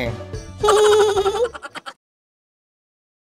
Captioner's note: sound laugh